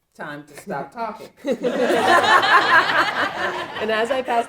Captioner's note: audience laughing